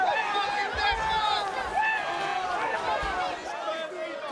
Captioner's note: crowd murmuring